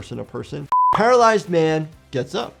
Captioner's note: screen beeps